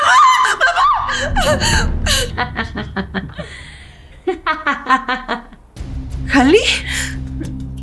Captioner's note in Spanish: grito ahogado; risas; grito; risas